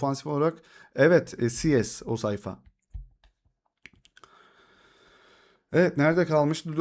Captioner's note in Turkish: iç çeker